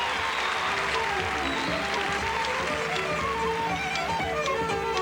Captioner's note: applause; irish folk melody